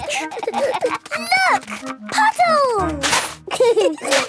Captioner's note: giggling; laughter